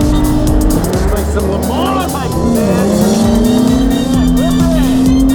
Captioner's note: engine revving; beep